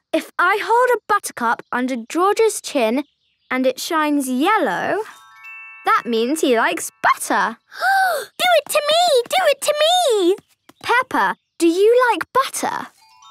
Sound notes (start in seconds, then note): 7.7 gasping